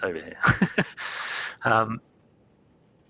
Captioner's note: laughs